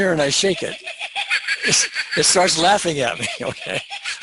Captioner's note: mirror laughs